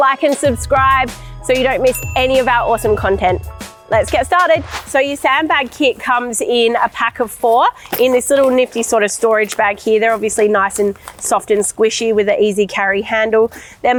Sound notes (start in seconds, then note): 4.0 wind whooshing